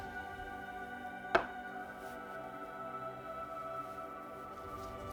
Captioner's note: pan thuds